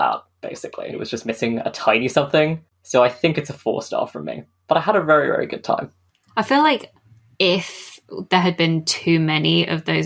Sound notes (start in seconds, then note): none